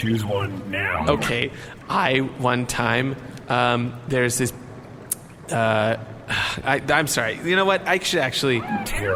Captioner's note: hesitantly; sighs; scornful